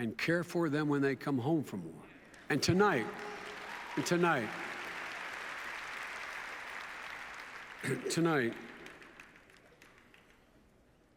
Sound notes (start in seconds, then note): 4.7 applause